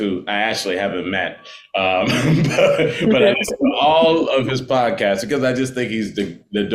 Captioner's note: chuckles